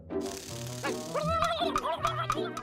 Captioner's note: gobbles angrily